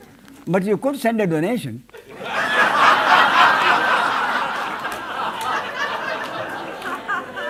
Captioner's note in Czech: smích